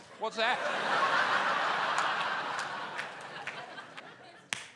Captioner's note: laughter